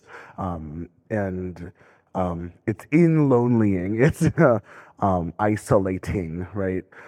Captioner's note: laughing